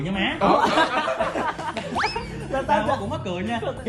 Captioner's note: laugh